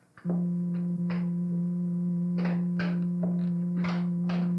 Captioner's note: machine humming